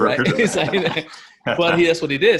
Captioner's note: laughing